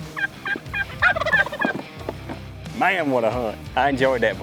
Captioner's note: turkey call; turkey gobbling